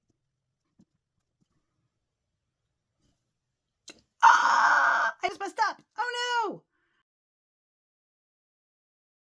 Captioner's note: gasp